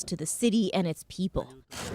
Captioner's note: speaking Foreign Language